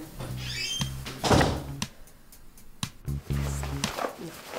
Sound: rummaging through clothes

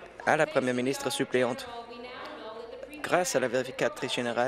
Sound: applause

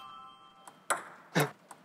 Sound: bouncing

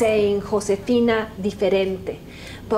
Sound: spanish

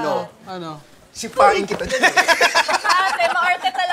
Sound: laughter

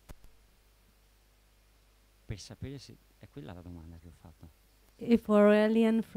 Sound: Italian speaking

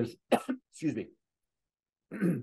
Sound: cough

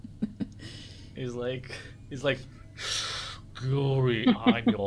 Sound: imitates Darth Vader breathing

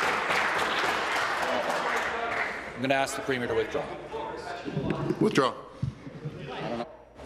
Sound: applause

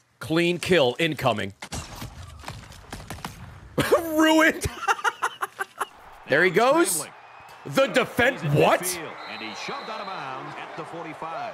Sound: laughs

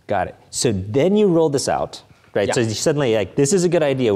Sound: none

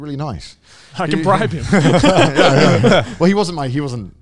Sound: all laughing

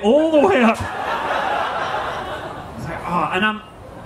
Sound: audience laughing

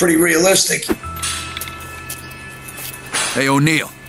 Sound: weights clanking

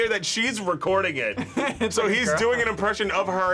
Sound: laughs

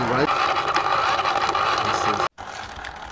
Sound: grinding sound

